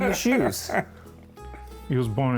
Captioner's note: laughing